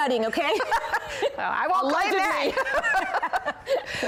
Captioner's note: laughter